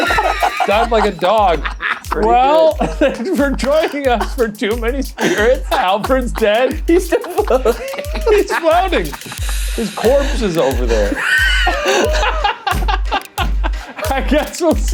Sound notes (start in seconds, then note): 2.6 laughing; 12.7 laughing